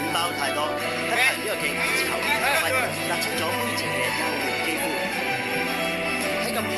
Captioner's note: laughs